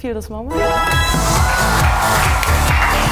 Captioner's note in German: Applaus